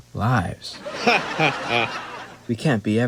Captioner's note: laughter